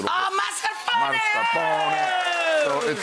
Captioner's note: audience cheering